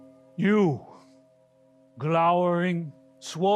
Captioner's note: bell chime in distance